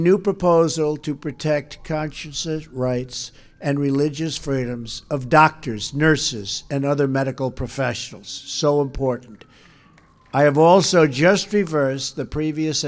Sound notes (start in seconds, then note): 9.6 applause